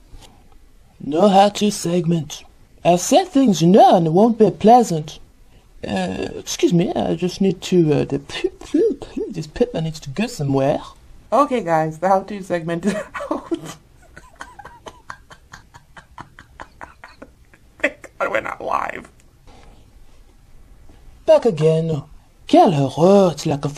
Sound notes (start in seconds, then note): 12.9 breaks up laughing again, has to put head down for a second